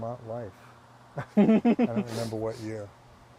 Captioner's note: laughing